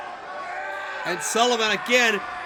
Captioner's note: screams